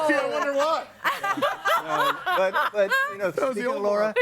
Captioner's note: laughs